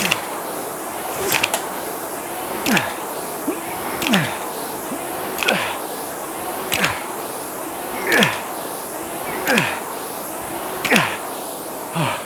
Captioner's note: grunting